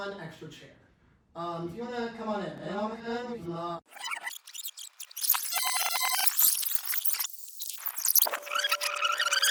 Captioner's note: rewind noises